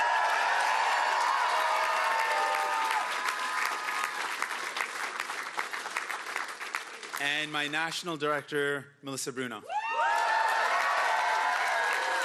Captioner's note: cheering and Applause; cheering and Applause